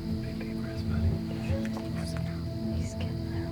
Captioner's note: whispering